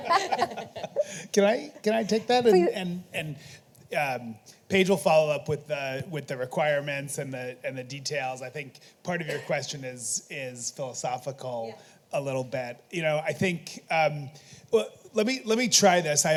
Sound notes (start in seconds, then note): 1.8 audience laughing